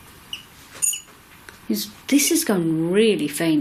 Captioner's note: beeps twice